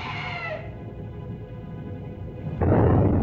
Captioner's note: screams; volcano rumbles; explosion